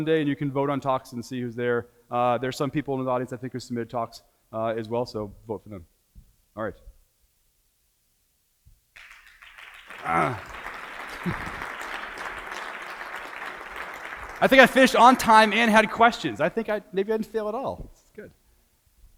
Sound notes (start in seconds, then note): 8.9 audience applauds